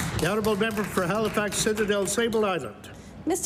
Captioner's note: applause